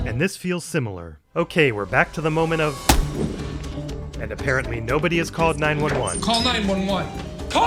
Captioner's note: smack!